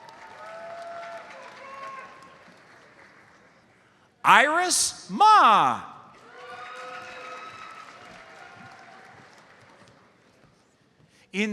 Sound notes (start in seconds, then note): 0.3 audience cheers; 6.1 audience cheers and applauds